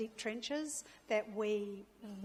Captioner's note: none